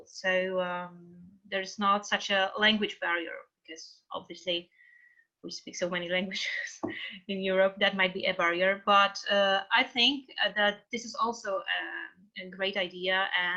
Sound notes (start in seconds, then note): 7.1 laughing